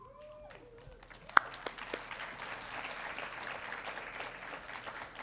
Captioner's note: audience applauding